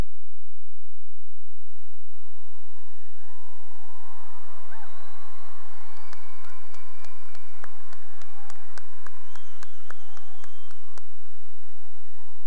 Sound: cheering and applause

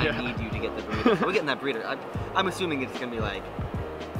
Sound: laughs

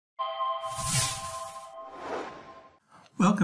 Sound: intro sound effect

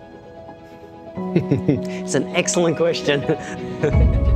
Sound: laugh

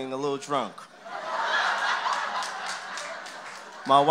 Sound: laughter

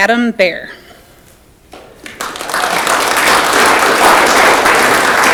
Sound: audience clapping

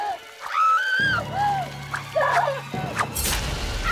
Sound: screaming

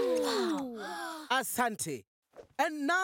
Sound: in Swahili

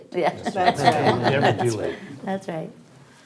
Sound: all laughing

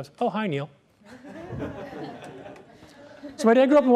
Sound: laughter

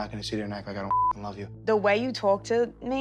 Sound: beep

